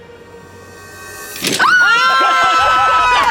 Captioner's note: blocks crash; screams; group laughs